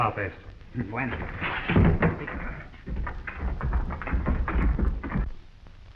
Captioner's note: Pablo speaking in foreign language